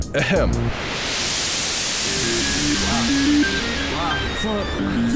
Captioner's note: noise spikes